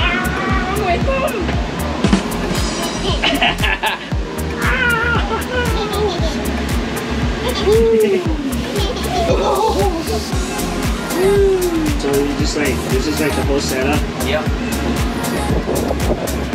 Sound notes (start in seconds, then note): 4.7 laughs; 4.8 exclaiming; 4.8 laughs; 8.6 group laughs